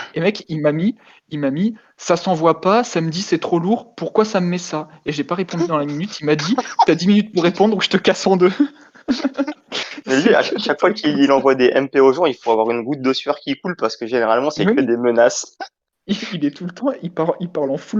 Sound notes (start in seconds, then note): 15.0 laugh